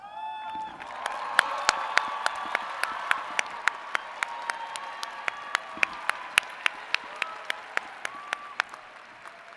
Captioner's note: applause